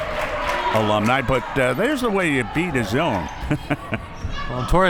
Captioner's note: laughs